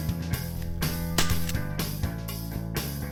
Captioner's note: gun fire